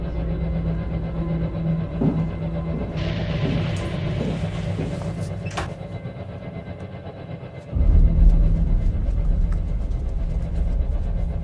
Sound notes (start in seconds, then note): 1.7 footsteps thudding; 5.4 door clicking; 8.0 tense music continues